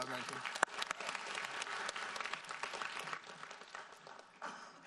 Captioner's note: audience applauds